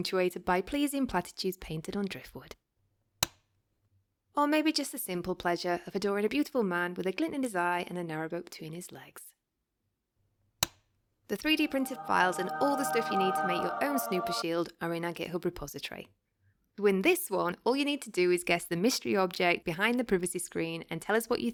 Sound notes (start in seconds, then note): 3.2 click noise; 10.6 click noise